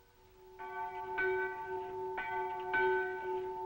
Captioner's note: bell tolling